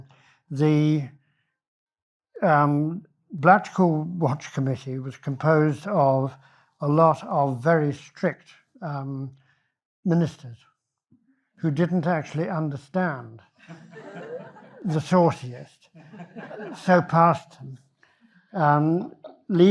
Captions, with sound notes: the Blackpool Watch Committee was composed of a lot of very strict ministers who didn't actually understand (audience laughs) the sauciest, so passed leaving...